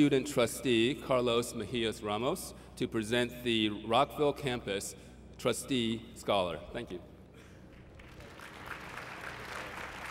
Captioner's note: applause